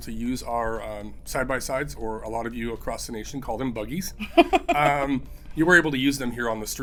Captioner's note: laughs